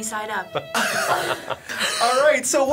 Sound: people laughing

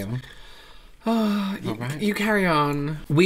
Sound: sighs Of Dispair

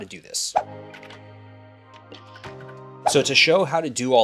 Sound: soft ambient music; graphics whooshing

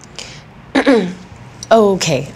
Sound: clears throat

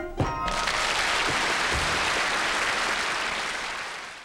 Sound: audience applauding

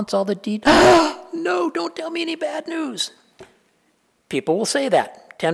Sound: gasp

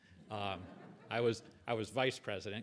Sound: audience laughing

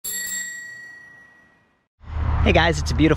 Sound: bicycle bell ringing

